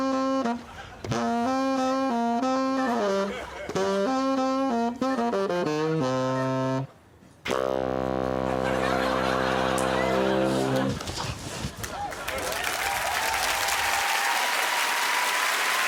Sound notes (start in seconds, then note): 8.4 laughter; 11.8 cheering and applause